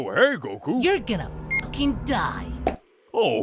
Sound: scouter beep

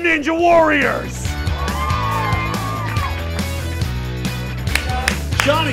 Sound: students cheering

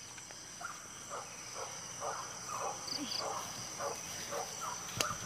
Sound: dogs barking in a distance

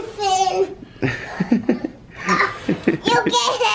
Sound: laughter

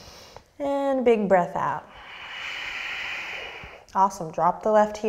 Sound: deep breath; deep breath

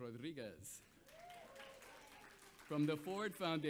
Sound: audience applauds

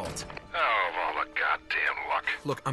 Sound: radio

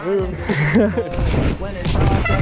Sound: laughs; brakes squeaking

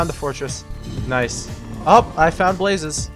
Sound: blaze breathes

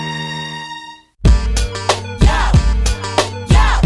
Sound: people chanting yo; hip hop beat

